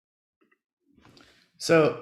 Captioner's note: silence